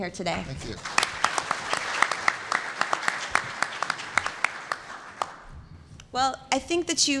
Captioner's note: applause